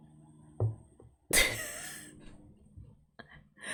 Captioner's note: laughs